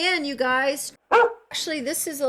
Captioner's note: bark